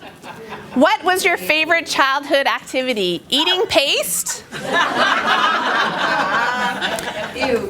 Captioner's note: laughter